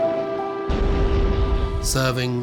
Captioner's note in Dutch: granaat explodeert